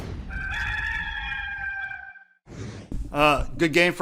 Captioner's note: rooster crowing